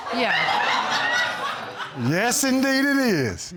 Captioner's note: audience laughing